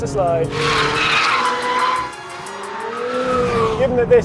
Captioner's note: tires screeching